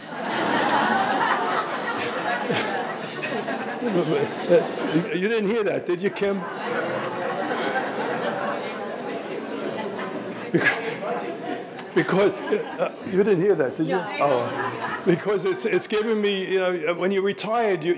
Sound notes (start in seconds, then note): 0.2 audience laughing; 6.9 audience laughing